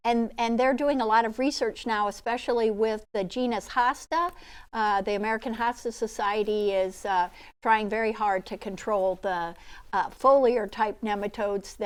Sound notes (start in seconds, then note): none